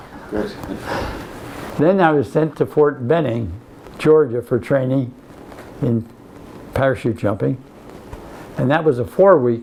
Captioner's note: laughs